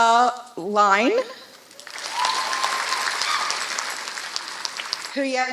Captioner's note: applause